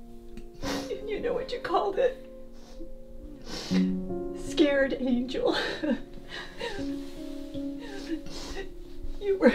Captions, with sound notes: "Scared Angel." You were a scared angel. (Janice sobbing)